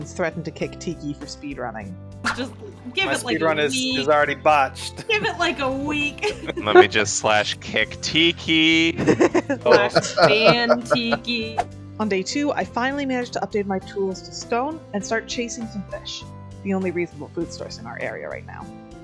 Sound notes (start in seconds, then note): 8.9 laughter